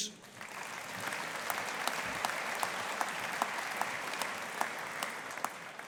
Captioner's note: audience applauding